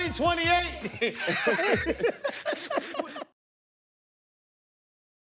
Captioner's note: laughter